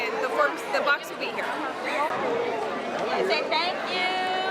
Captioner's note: crowd chatter echoing